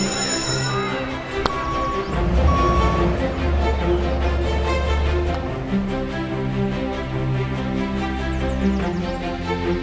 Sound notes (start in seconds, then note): 0.1 truck back up beep